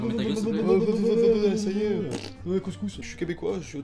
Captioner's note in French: bruit de pet